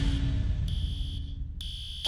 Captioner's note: fire alarm blaring